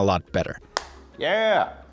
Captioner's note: phone snapping shut